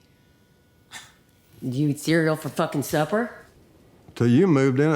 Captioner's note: scoffs